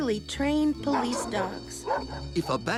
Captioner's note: barking